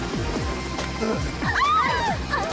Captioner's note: girls shriek